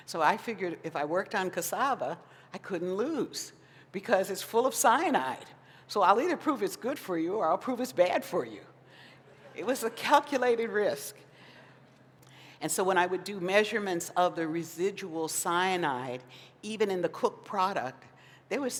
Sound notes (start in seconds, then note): 9.2 laughter